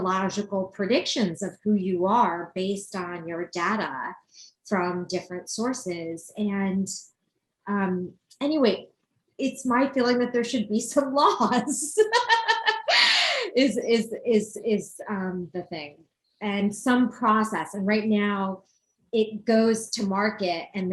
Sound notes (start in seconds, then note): 11.9 laughs